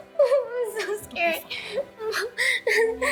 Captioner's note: sobbing